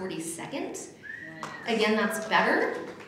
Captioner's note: applause